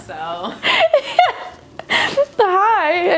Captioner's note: laughing